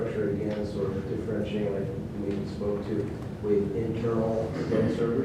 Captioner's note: speaking off mic